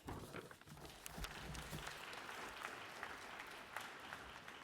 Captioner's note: applause